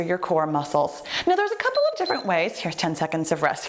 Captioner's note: timer beeps